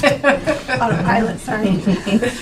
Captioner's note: laughing